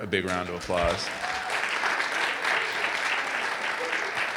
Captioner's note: audience applauding